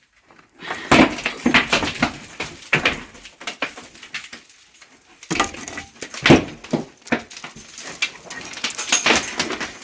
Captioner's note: falling debris